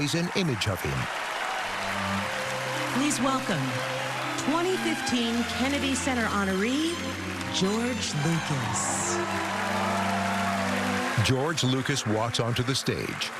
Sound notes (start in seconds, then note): 8.8 cheering and applause